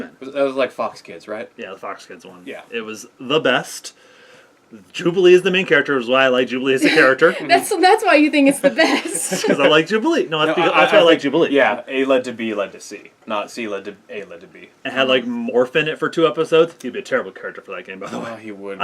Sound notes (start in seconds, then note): 6.8 laugh; 11.4 stammering